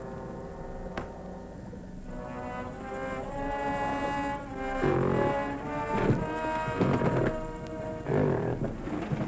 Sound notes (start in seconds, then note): 5.3 gorilla growling